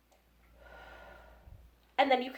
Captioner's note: breaths in; breaths out